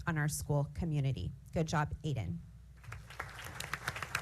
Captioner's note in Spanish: aplausos